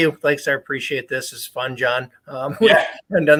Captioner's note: laughs